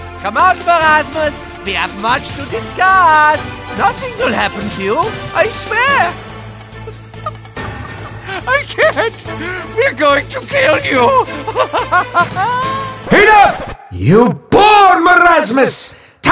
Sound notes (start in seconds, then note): 6.6 breathless laughter; 11.2 more laughter